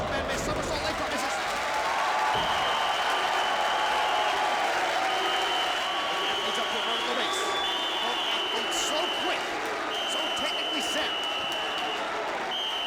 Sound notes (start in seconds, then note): 1.5 crowd cheering; 1.5 whistle blowing